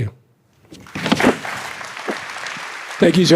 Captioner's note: applause